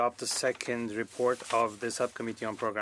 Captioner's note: speaking French